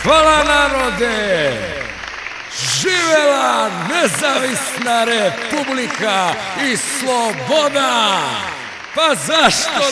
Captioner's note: ironic - political speech